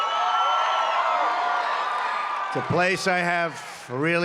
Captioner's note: applause